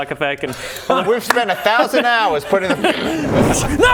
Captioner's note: whoosh; wrrssh